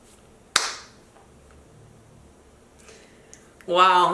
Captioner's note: claps